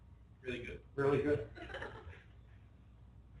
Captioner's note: laughter